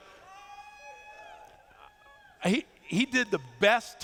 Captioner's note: cheers